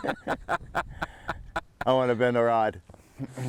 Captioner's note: chuckling